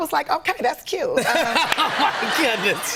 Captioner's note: laughter